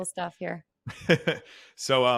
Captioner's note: laughs